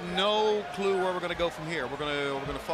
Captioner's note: crowd chatter